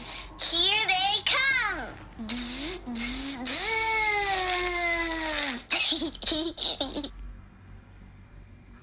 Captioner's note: laughter